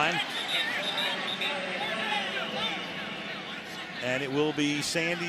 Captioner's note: pa announcement